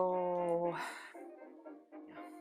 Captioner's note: sighs